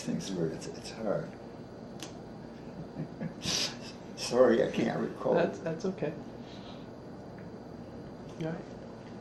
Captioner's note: chuckles